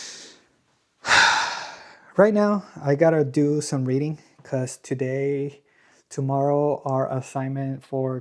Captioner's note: sighs; gasps